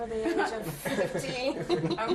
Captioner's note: laughter